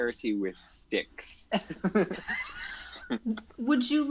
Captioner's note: cast laughs